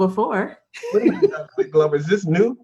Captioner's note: laughs